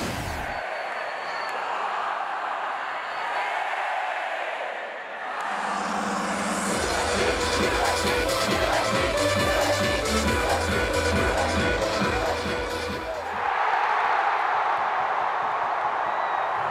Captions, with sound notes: (energetic music) - [Crowd] USC, USC, USC, USC, USC, USC, USC, USC.